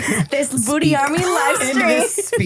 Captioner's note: laughing